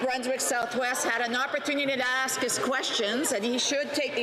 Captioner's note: mixed voices